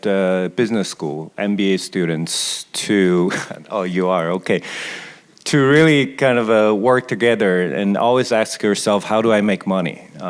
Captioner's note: laughs